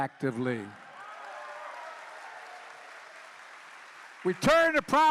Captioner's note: applause